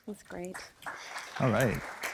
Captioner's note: applause